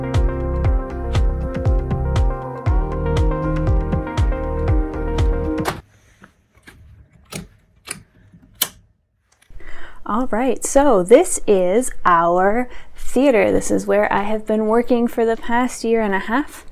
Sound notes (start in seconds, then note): 5.6 door slams; 6.5 sticky knobs snapping into place